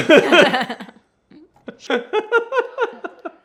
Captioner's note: both laughing